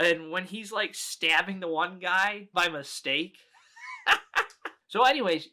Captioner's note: laughs